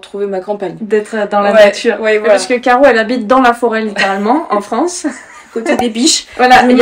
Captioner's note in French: rires